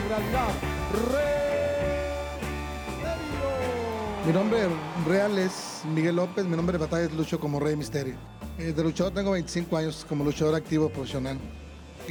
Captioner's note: speaking Spanish; speaking Spanish